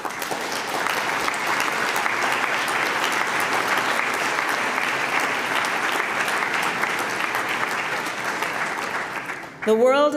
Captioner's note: applause